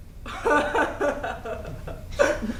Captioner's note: laughs grossly